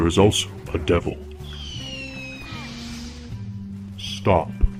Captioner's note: detonator screech